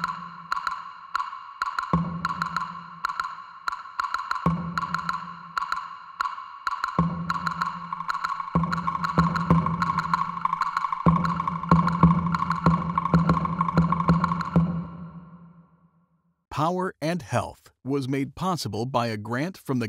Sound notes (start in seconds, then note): none